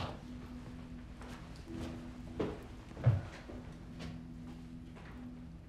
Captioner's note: gentle music; footsteps retreating; gentle music